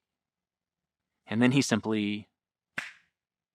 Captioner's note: fingers snapping